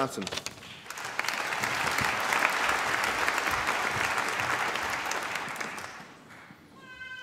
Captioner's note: applause